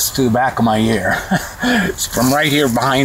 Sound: laughs

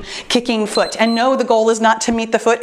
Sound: timer beeps

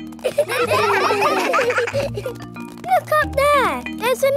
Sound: children laughing

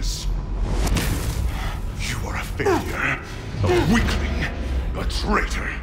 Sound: grunting

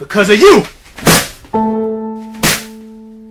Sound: thudding; tense music

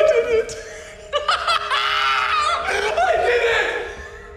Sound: laughing maniacally

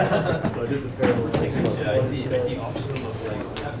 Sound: students laughing

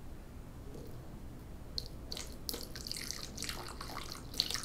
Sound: water splashing

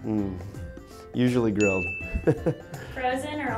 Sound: laughs

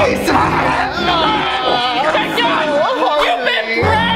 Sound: both yell

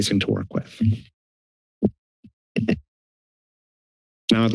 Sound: mic thumps

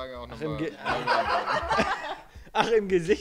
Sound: laughing

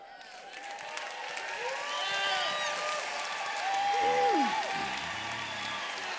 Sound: applause

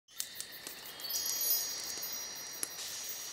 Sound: soft chimes

